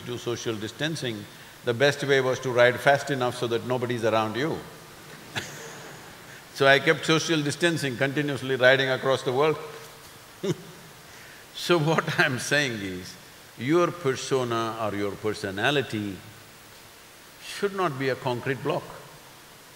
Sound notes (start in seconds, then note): 5.2 laughter; 10.0 laughs